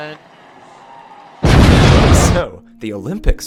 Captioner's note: crowd cheering; explosion